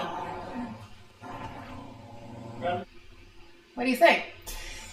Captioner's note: dog growling